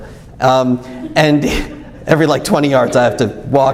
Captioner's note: laughs